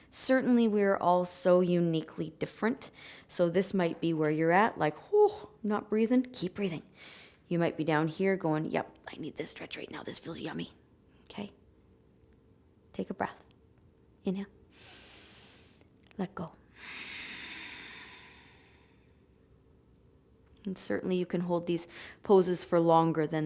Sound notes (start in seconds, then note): 16.7 inhaling; 16.7 exhaling